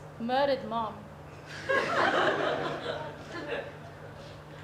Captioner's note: audience laughter